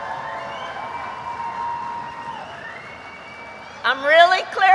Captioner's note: applause